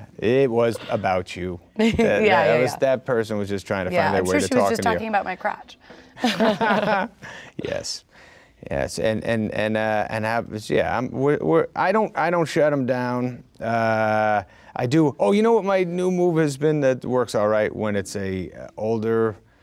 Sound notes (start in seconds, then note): 6.2 both laugh